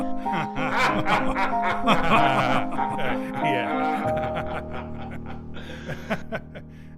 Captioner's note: laughter